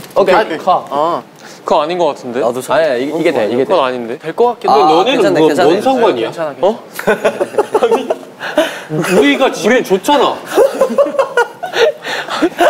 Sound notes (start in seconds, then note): 7.0 laughing; 7.0 laughing the head off